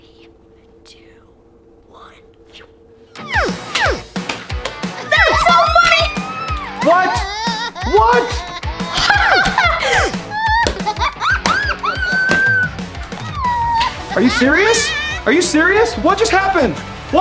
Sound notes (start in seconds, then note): 3.4 action music; 3.4 eggs thudding; 9.1 action music; 9.1 laughing